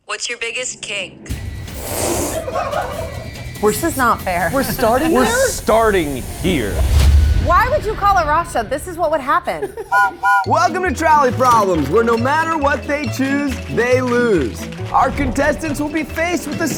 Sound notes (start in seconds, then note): 2.4 crew laughing; 9.8 whistle blows